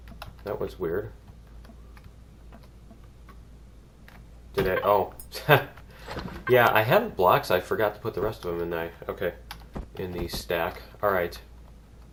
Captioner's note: laughs